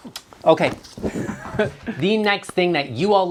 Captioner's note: laughing